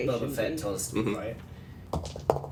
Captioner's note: dice rolls